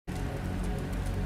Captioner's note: fire ambience